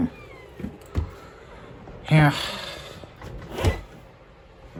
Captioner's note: door opens then closes